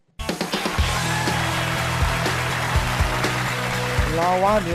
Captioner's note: audience clapping